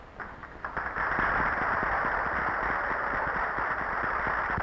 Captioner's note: audience applauding